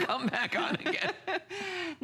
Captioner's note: laughter